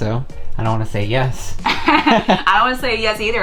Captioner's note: both laugh